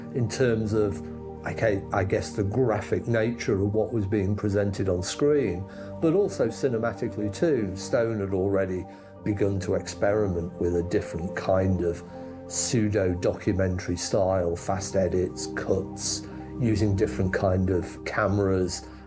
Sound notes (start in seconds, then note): none